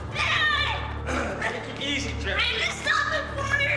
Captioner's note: grunts